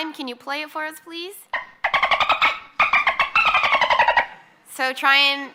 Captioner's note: dolphin noise